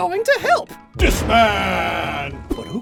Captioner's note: boom